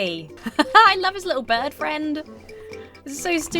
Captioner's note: laughs